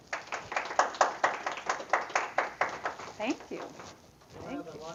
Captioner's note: applause